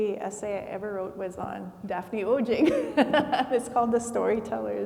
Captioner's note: laughs